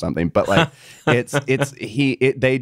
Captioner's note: bowen laughing